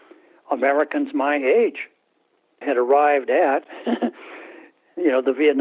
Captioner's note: laughter